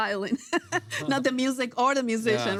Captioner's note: laughs